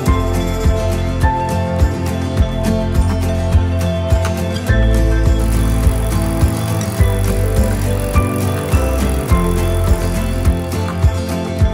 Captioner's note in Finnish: Pyörän ketjun ääntä